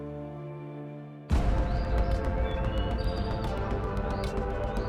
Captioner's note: birds singing